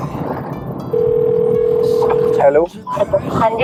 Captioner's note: phone rings